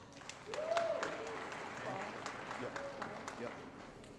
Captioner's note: applause